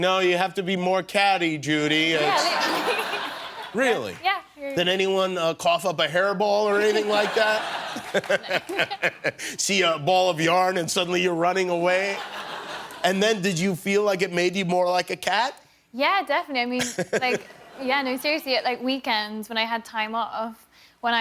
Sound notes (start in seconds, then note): 16.8 laughter